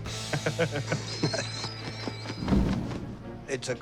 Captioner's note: laughs